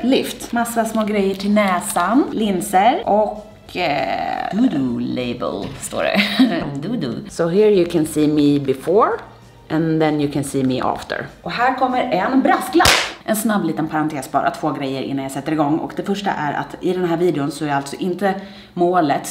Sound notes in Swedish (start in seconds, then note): 6.1 skrattar